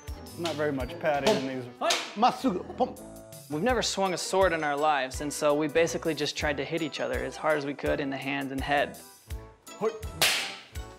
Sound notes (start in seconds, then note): 2.1 speaking japanese